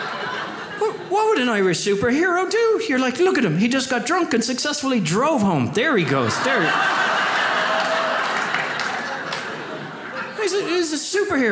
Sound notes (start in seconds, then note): 5.8 audience laughs